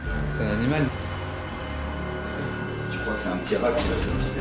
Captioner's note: speaks French